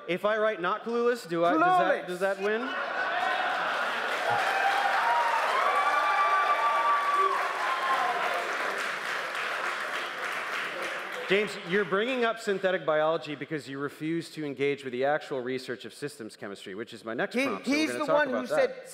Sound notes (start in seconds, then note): 3.1 applause